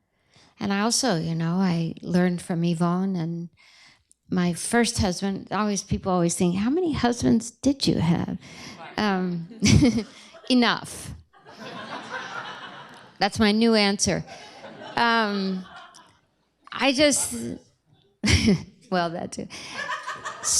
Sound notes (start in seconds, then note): 11.4 laughter